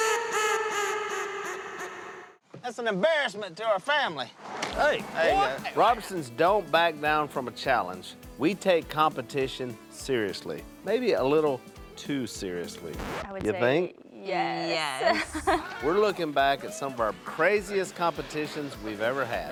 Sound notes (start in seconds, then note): 14.9 laughing